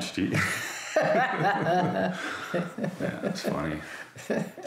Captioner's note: both laughing